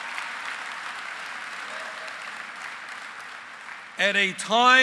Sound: applause

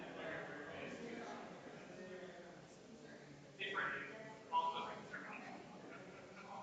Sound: people chattering distantly continues

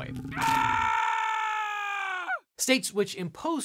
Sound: man yelling

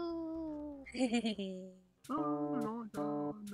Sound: Red Man laughs; pink hair man sings

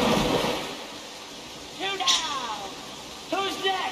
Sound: water splash

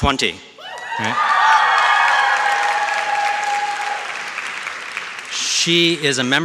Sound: audience shouts and claps

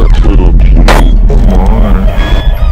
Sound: distorted

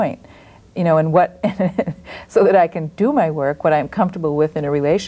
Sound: laughs

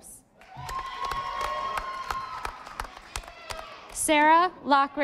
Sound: audience applauding

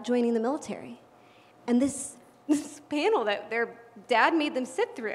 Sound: laugh

